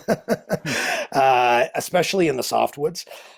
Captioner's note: laughing